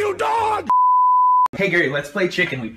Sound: TV Color Bars Sound Effect

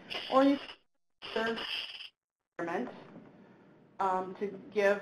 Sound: audio distorts

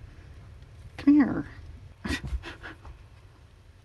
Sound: laughs

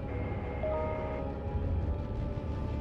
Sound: chime

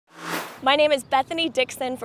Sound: sound Effects

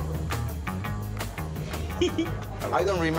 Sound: giggling

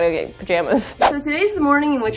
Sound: woosh

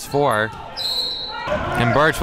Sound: referee blows whistle

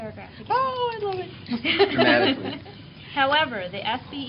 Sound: laughter

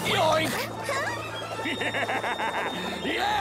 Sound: laughing

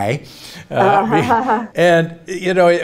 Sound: Bobbi laughs

